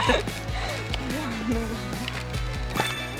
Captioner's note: laughing shortly and focusing again like a PRO; giggle